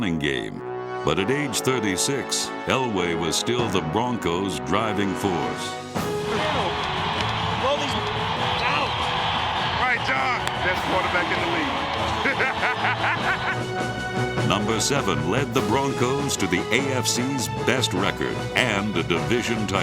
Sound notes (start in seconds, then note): 11.0 laughs